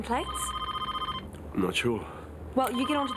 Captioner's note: phone ringing